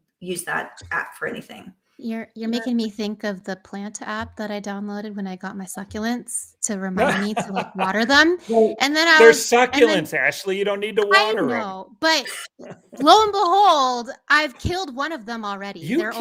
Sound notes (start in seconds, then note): 7.0 chuckling